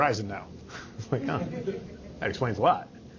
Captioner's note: all chuckling